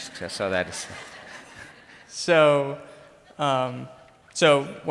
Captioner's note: crowd laughs